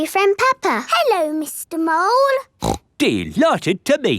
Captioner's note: snorts